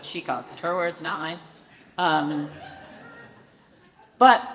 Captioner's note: audience laughs